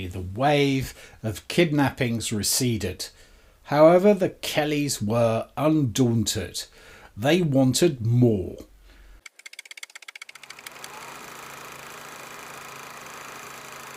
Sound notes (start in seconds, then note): 9.2 typewriter typing; 10.3 projector whirring